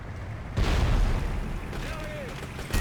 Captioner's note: gunfire